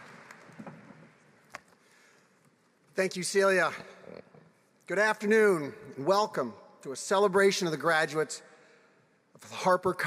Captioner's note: applause